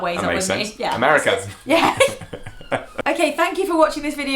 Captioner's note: laughter